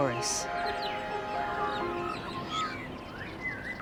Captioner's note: birdsong